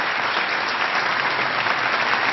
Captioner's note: applause